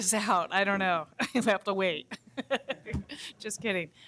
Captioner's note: laughter